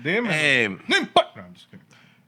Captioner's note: speaking Spanish